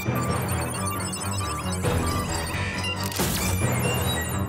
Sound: beeping

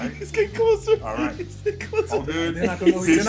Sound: laugh

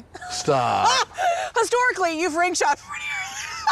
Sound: laughing

